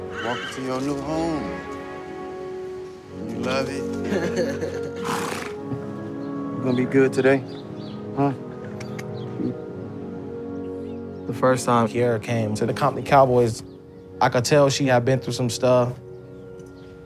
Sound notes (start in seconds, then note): 4.9 horse snorts; 8.4 clicking